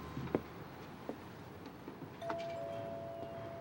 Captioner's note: doorbell rings